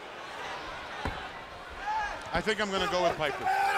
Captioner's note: crowd chatter